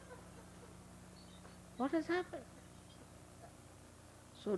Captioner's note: laughter